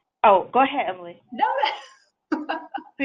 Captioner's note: laughs